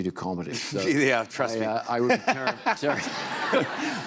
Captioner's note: laughs